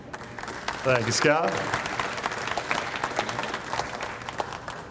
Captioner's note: audience applauds